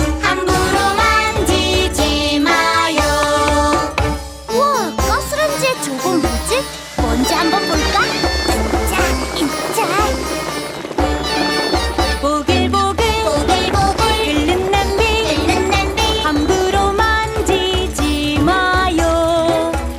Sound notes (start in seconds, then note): 13.1 bubbling soup!